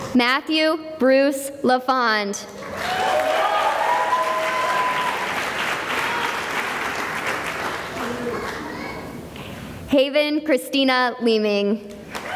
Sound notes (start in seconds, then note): 2.6 cheering and applause